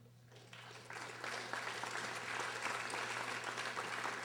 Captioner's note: audience applauding